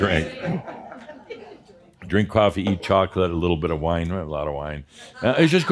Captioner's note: some chuckles